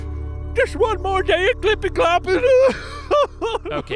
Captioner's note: weeping